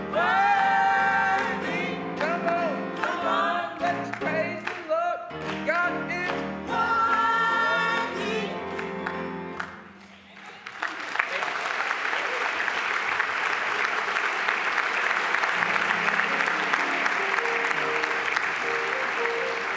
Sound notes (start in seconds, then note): 10.6 applause